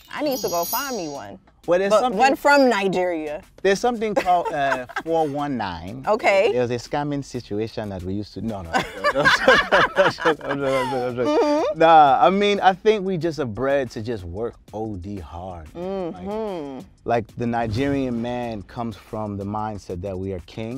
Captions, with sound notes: I need to go find me one. - Well, there's-- - But one from Nigeria. There's something called a 419. OK. There's a scamming situation that we used to-- no, no. [laughter] No, I mean, I think we just are bred to just work OD hard. Mm-hmm. Like, the Nigerian man comes from the mindset that we are kings.